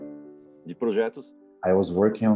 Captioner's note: speaking in Portuguese